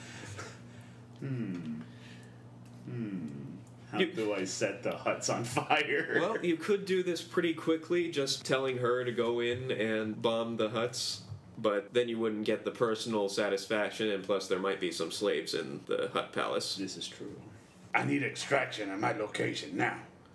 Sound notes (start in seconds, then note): 5.9 giggles